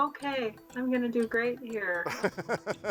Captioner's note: laughs